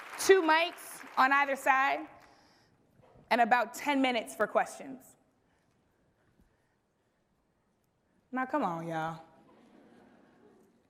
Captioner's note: applause